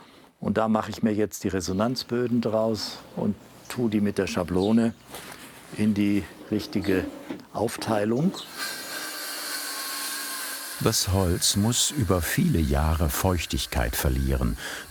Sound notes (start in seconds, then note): 8.4 metallic scraping